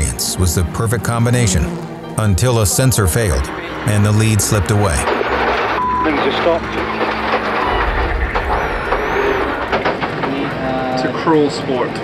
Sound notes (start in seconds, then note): 4.8 engine rattling; 7.3 beep